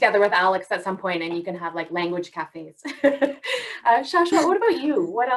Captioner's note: laughs